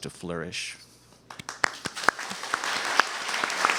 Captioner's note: applause